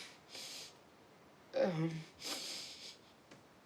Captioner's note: sniffles; sniffles